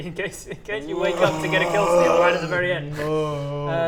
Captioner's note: urggggggggggggggggggggggh